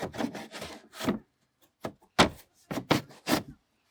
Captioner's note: none